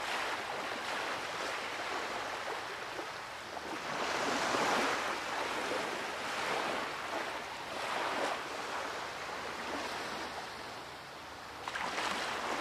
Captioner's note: nature sounds, birds, soft waves